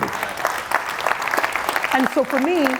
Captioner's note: audience applauding